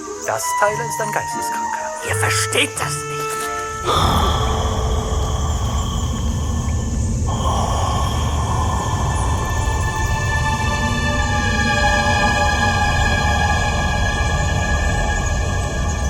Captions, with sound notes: This, Tyler, is a lunatic. You don't understand! (heavy breathing)